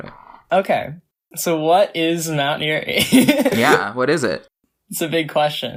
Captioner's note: laughs